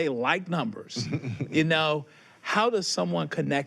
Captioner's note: chuckles